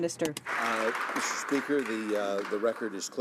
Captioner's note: some Applause